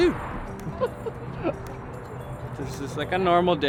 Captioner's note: laughs